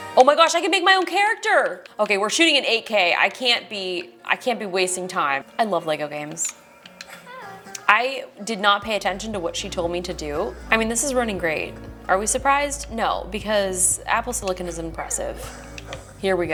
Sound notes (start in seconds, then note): 7.4 speaking gibberish